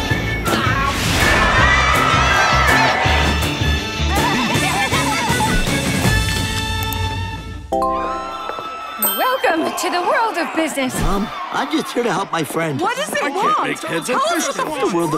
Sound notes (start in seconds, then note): 0.5 crowd cheering; 4.1 laughing; 7.9 phones ringing, moaning